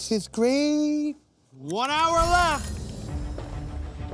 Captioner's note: timer ringing